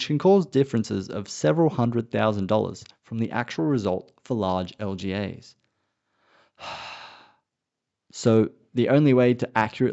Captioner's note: sighs